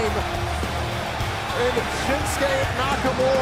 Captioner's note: crowd cheering